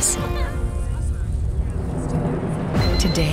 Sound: children laughing

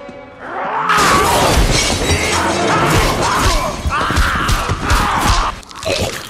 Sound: Gingerbread Man growling ferociously; man choking on blood

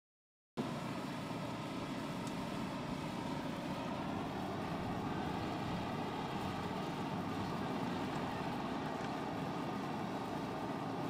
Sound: machine hum

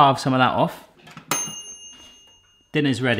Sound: timer dings

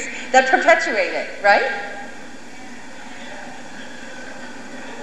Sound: murmured assent from audience

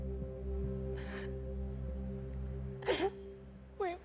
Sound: crying

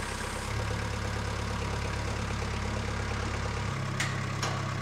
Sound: engine running

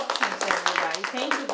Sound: applause

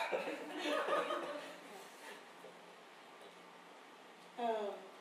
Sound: laughter

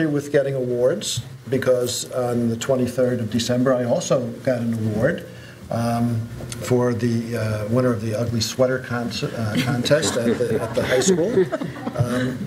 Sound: laughter

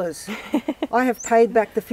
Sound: laughs

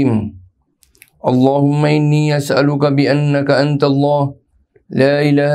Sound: arabic

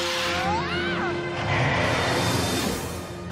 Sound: screaming

